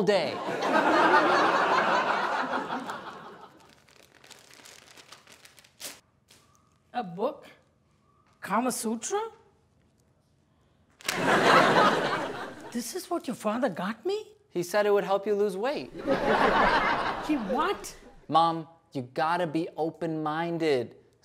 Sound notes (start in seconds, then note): 0.4 audience laughs; 11.0 audience laughs; 15.9 audience laughs